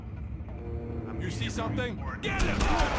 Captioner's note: gun firing